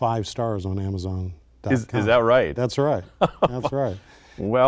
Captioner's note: laughter